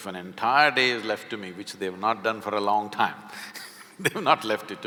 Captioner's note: laughs